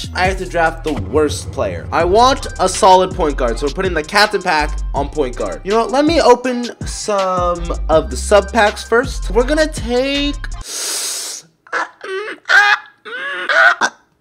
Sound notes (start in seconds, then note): 10.6 inhale; 11.5 indecisive noises